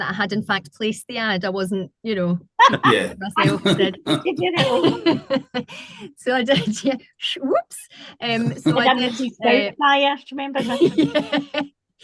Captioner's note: laughter